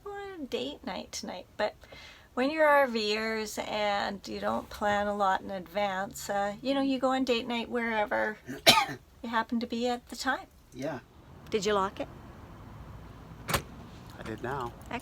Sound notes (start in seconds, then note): 13.4 sound of lock clicking